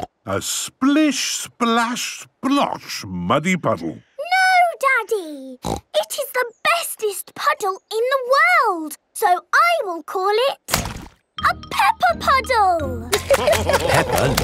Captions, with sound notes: (snorting) - A splish-splash-splosh muddy puddle. - No, Daddy! (snorting) It is the bestest puddle in the world! So I will call it... a Peppa Puddle! (laughter)